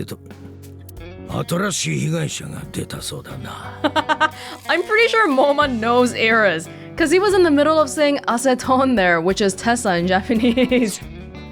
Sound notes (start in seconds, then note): 3.6 chuckles; 10.3 chuckles